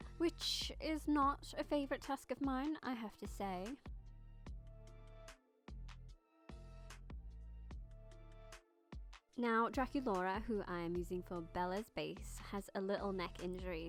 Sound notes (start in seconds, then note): none